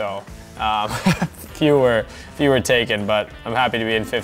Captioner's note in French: rires